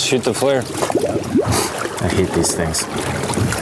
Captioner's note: scoffs